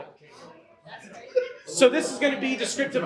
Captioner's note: audience chatter